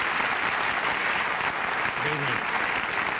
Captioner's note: applause